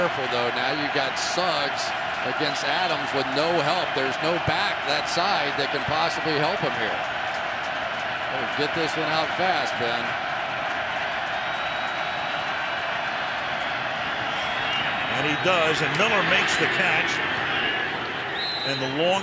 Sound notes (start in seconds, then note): 11.1 crowd cheering